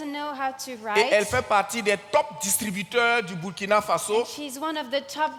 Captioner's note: continues in French